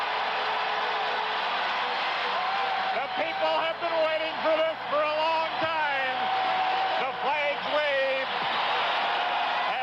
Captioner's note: cheering and applause